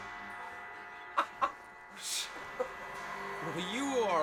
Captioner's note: laughing